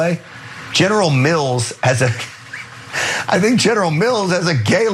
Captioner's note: laugh